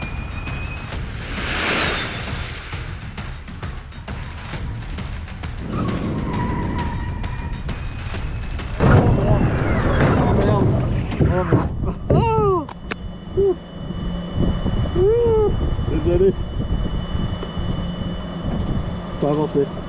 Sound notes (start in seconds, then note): 5.6 screeching Tires; 8.7 collision noise; 11.2 nervous laughter